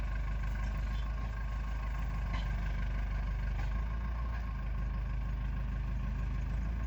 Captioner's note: tractor motor running